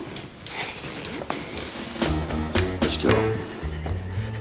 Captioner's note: exhales sharply